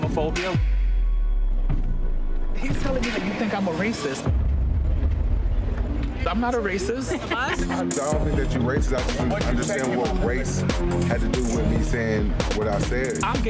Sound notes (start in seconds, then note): 0.0 tense hip-hop music; 6.7 people speaking indistinct; 7.1 person laughs; 10.7 tense dramatic music